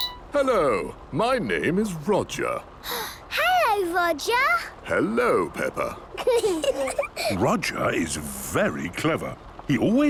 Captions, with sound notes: - Hello. My name is Roger. - (gasps) Hello, Roger! - Hello, Peppa. - (children giggling) - Roger is very clever.